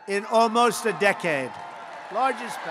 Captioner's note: applause